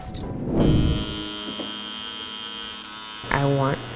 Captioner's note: tattoo gun buzzes